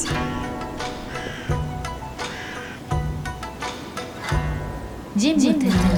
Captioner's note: soft gentle music; crow cawing